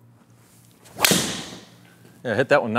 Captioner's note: golf ball bangs